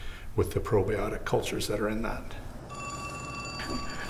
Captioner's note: phone ringing